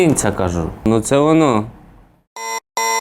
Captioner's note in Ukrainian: звук сирени